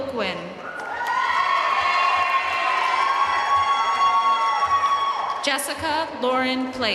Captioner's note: audience cheering and applauding